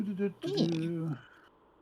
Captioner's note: humming